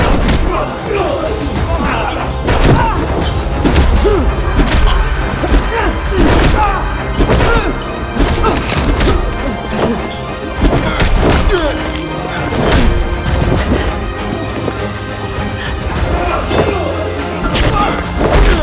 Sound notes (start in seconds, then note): 7.1 beretta clatters